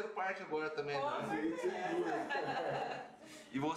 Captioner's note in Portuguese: risos